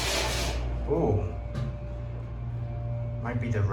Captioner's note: screeching Noise